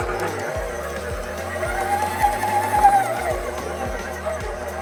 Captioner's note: mixer mixing